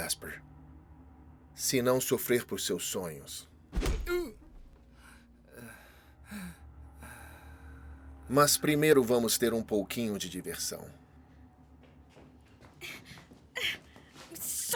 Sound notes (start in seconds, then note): 3.7 punch thudding